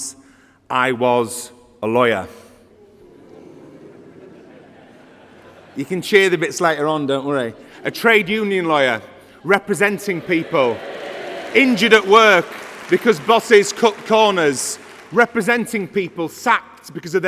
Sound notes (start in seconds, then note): 6.6 laughter